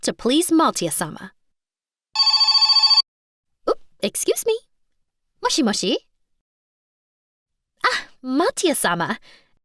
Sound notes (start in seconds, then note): 2.1 phone rings